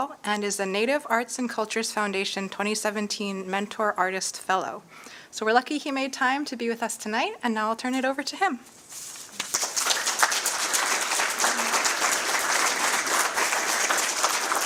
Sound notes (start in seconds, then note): 9.3 applause